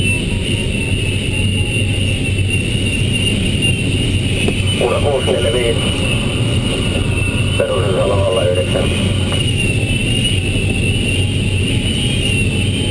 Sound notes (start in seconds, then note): 4.6 radio